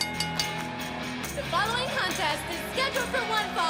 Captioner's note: bell ringing